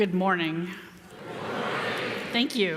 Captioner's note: crowd